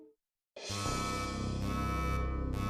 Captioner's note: beeping